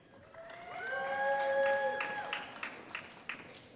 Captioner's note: applause